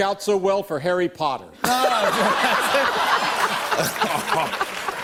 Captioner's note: laughter